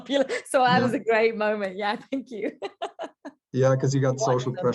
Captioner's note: light laughter